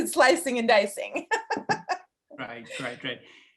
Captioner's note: laughing